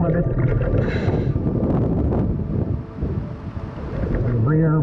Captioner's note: wind gusts loudly